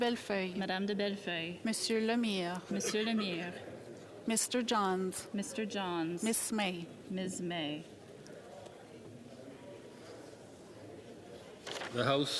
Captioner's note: calling of recorded vote